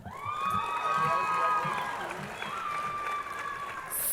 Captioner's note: crowd cheering